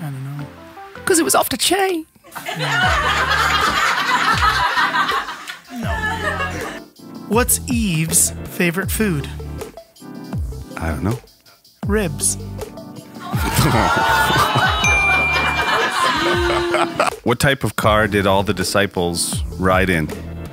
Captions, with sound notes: - I don't know. - 'Cause it was off the chain. (laughing) - No. - What's Eve's favorite food? - I don't know. - Ribs. (laughing and jeering) (bells dings) - What type of car did all the Disciples ride in?